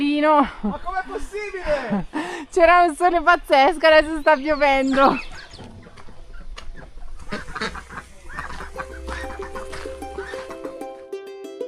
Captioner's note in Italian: risate